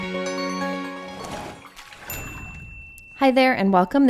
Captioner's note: light music; splashing; bell dings